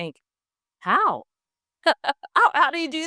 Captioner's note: laughs